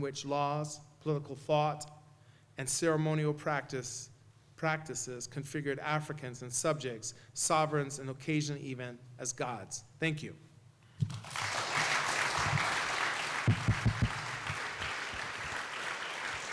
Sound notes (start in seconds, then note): 11.0 applause